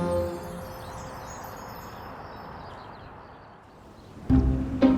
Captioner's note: gentle upbeat music; birds chirping; gentle upbeat music